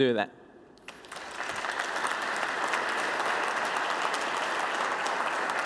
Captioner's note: applause